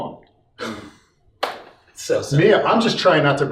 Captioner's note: laughs